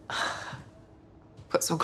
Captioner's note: Anna scoffs